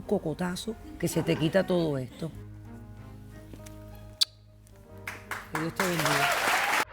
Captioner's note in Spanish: Risas del público